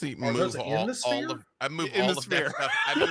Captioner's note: murmurs